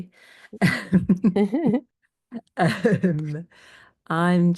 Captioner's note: all laugh